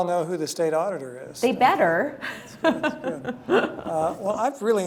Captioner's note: laughs